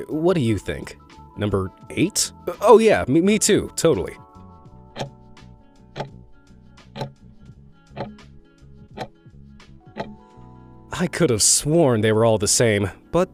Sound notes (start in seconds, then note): 5.1 timer ticking